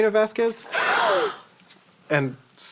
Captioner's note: gasp